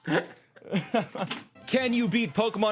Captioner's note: laughs